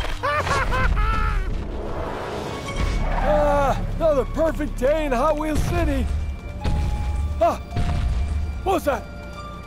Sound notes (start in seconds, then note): 0.2 sinister laughing; 3.2 tires screeching; 5.4 booming thuds